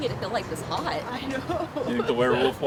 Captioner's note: riendo